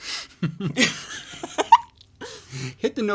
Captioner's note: both laugh